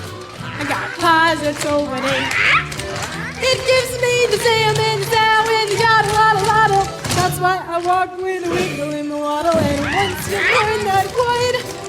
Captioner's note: screaming